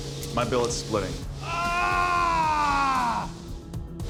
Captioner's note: shouts